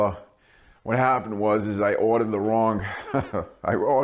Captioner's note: laughing